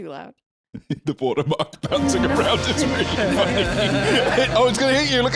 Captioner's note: laughing